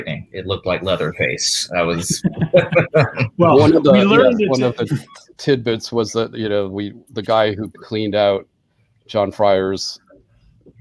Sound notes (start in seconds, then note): 1.9 panelists laugh